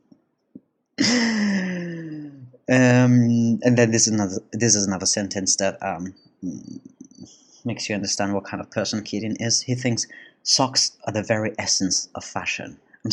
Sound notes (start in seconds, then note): 1.0 chuckle